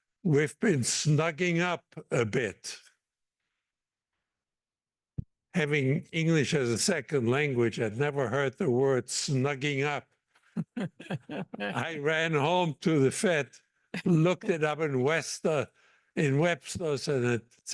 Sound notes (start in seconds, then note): 10.6 laugh